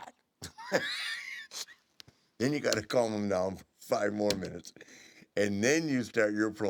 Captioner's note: laugh